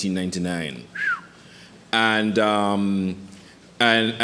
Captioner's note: whistles